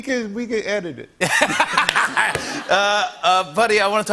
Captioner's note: laughter